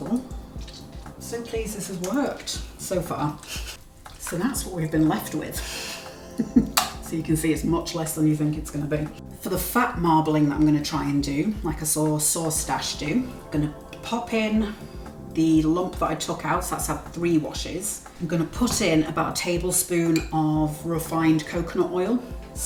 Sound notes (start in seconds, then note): 3.4 laughs